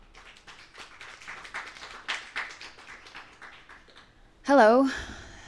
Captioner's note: audience clapping